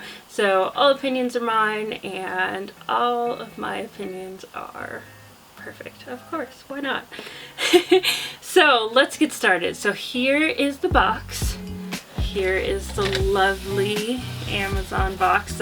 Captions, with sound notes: So, all opinions are mine and all of my...opinions...are... perfect. Of course, why not? *Laughs* So! Let's get started. So, here is the box. Here is the lovely Amazon box...